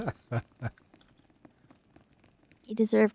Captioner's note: laughter